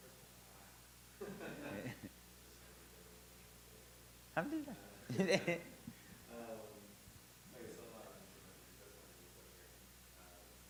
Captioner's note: laugh